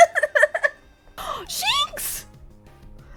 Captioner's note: dying of laughter; gasp